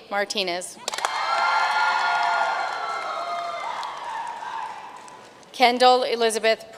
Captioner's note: audience cheering and applauding